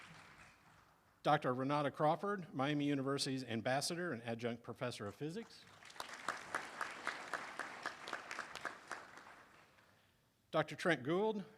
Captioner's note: applause